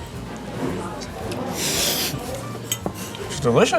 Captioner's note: patrons chattering